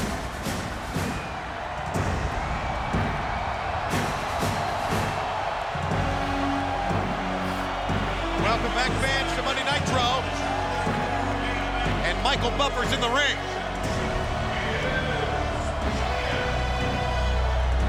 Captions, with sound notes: (upbeat music) (crowd cheering) Welcome back, fans, to Monday Nitro. And Michael Buffer's in the ring. (crowd cheering continues)